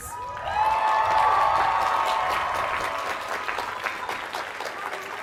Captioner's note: cheers and applause